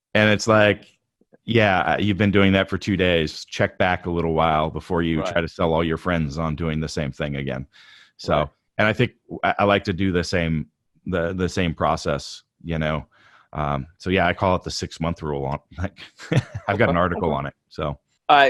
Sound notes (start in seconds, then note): 15.5 laughs